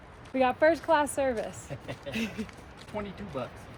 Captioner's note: laughing